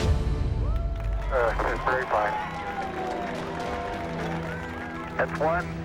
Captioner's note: cheering and applause